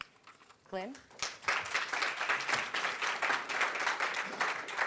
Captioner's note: applause